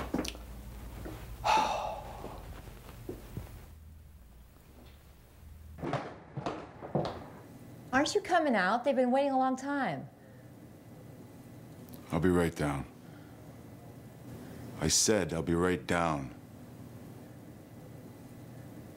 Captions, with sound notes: (sighs) - Aren't you coming out? They've been waiting a long time. - I'll be right down. I said I'll be right down.